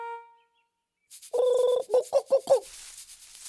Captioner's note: imitating bird cry